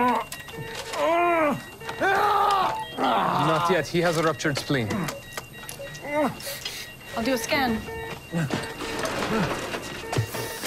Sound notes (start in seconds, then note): 0.3 groaning, screaming; 7.7 machines beeping rapidly